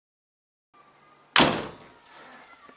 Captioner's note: shuting the door